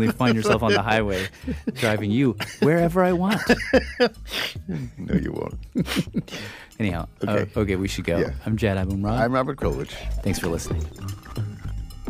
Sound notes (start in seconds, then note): 4.5 laughs